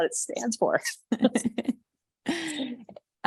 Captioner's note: chuckles